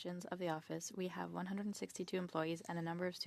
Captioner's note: speaking French